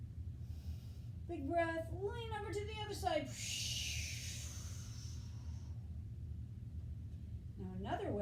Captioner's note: inhale; exhale